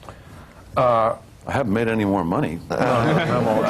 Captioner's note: laughter